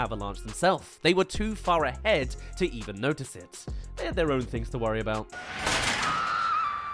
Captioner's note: screams